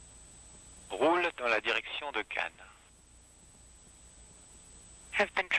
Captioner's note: french